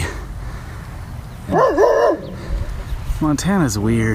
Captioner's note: dog barking